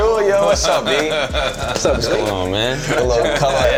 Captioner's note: laughing